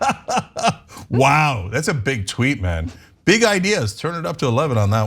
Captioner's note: laugh